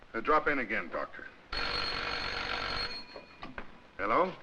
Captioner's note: telephone rings